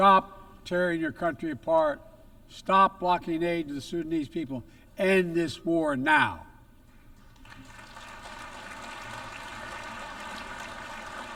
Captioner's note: applause